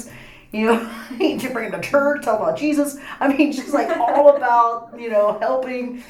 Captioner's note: laughs